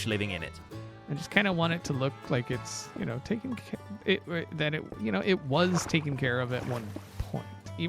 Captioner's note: stutters